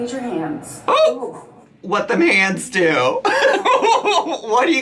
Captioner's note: laughing